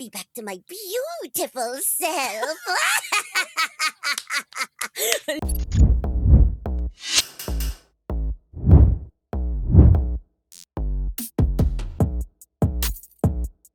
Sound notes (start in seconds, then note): 2.2 laughter